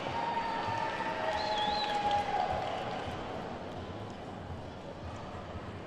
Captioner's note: attendees whooping and clapping